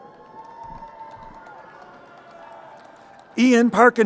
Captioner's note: crowd cheering